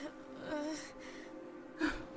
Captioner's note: groans